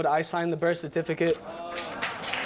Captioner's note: audience applauds